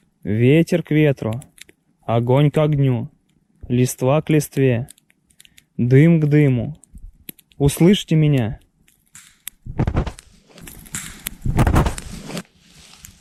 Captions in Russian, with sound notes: Ветер к ветру. Огонь к огню. Лист вак листве. Дым к дыму. Услышьте меня. *хруст ветки* ПОВТОР *хруст ветки либо щелчок*